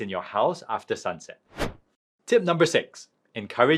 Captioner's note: transition whooshing